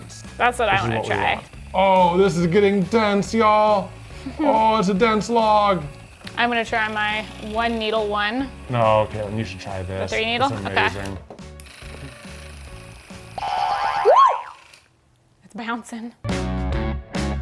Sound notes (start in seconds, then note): 11.7 device clicking; 13.8 exclaiming